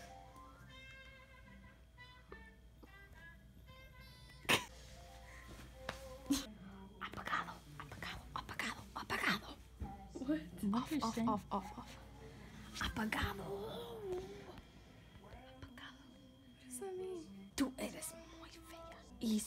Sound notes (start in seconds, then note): 4.2 laughs; 7.1 whispering; 14.7 whispers